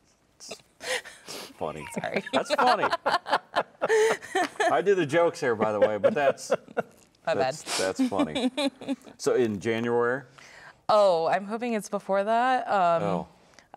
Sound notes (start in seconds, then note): 1.8 laughing